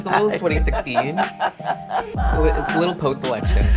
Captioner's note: laughs